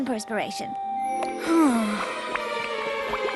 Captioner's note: sighs